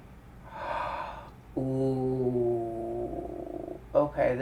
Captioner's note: gasp